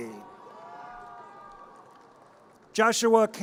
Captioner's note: audience cheers